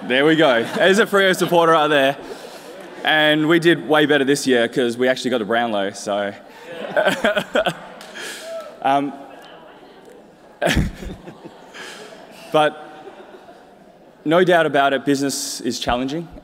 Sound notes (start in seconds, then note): 6.6 laughs